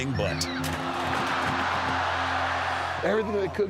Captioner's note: audience groans